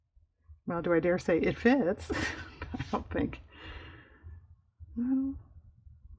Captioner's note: laughs